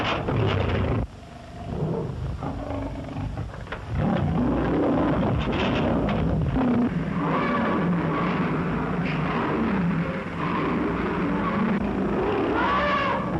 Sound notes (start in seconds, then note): 7.5 roaring; 12.1 trumpeting